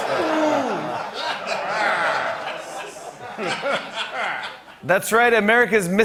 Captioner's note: laughter